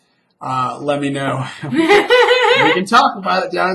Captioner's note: laughs